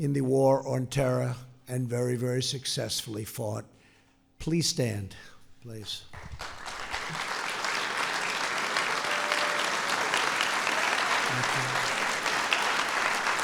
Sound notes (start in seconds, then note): 6.1 applause